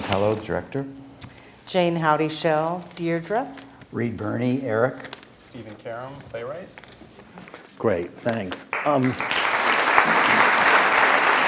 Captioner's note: laughter